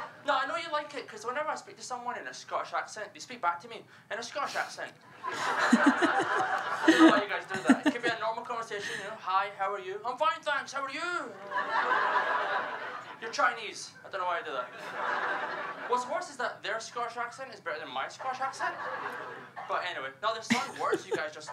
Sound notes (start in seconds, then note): 3.6 laughter; 9.8 in a Scottish accent